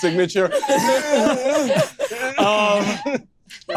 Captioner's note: groans